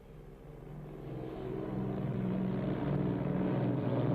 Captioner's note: engines whir